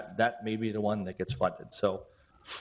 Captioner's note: none